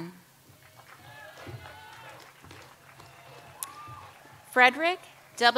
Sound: audience applauds

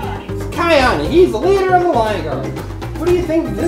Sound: voiceover

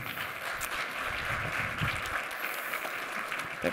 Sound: applause

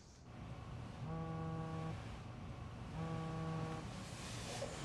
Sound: phone buzzing

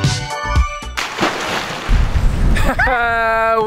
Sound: water splashing; both laughing

